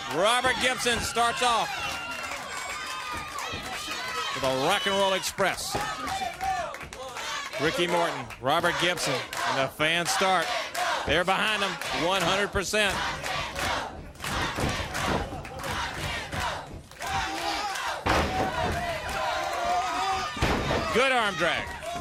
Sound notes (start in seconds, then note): 7.2 crowd cheering; 12.8 crowd cheering; 18.6 crowd chatter